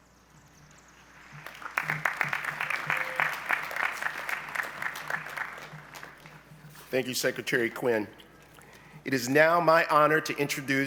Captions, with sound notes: (applause) - Thank you Secretary Quinn. It is now my honor to introduce